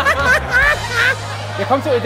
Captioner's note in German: Gelächter